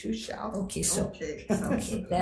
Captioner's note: laughs